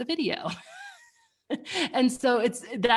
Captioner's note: laughs